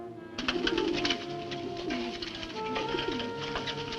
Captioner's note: bird cooing